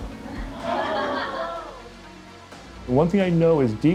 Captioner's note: laughing